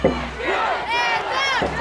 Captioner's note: crowd